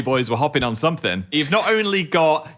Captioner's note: chuckles